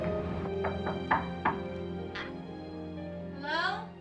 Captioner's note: knocking